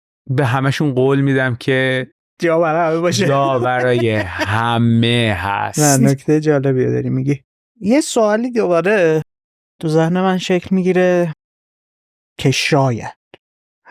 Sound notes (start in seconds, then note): 2.8 laughs